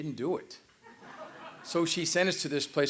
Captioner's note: laughter